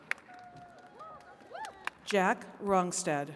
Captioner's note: attendees cheering and clapping